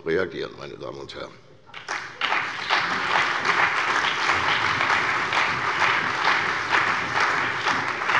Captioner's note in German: Beifall bei der CDU und dem BÜNDNIS 90/DIE GRÜNEN